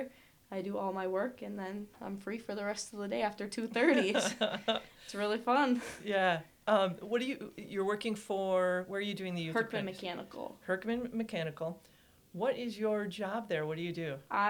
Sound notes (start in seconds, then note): 3.8 laughs